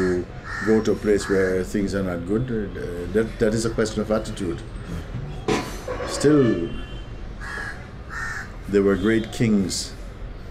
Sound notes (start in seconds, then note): none